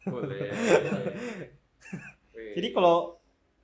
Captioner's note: laughter